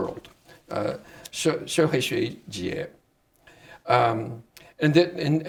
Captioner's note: speaking Chinese